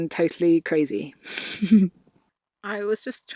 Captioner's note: chuckles